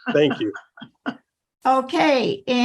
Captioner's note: laughter